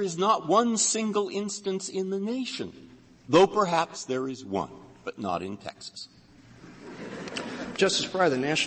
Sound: laughter

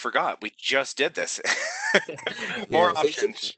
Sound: laughter

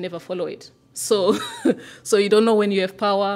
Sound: laughter

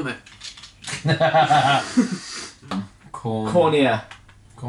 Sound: laughing

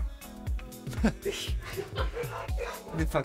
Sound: laughter

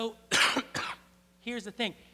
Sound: <i>cough</i>

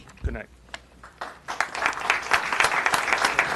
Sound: applause

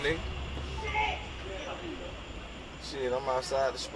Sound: background chatter, loud grunt

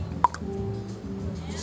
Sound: click

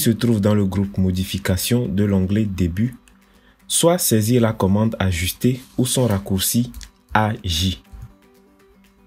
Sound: AJ in French

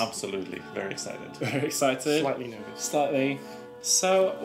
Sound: laughs

